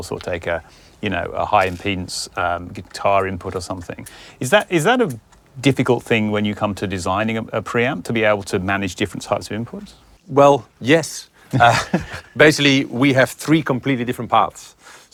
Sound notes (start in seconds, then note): 11.5 laughs